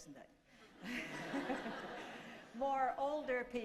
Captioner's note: laughter